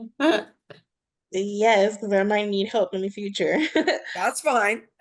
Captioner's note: chuckles